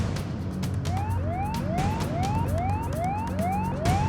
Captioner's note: sirens sound